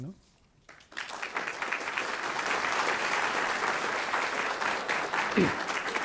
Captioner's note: applause